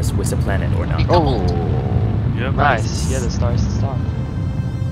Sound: on the radio

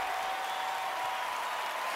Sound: cheering, applause

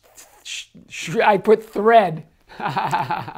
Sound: laughs

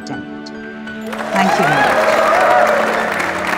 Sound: clapping

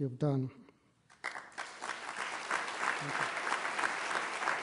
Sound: applause

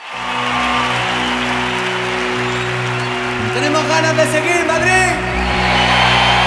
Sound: applause

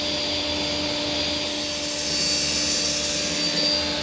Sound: machine noise

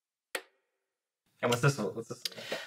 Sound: light clicks

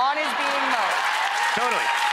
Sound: cheers and applause

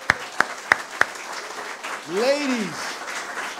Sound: audience applause

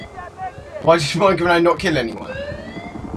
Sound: stammers

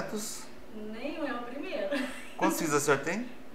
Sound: laughs

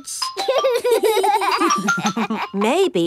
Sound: giggling

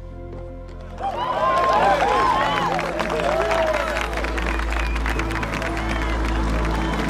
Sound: cheers and applause

